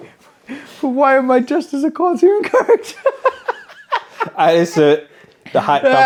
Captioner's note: laughs; laughs